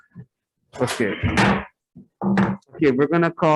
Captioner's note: gavel thuds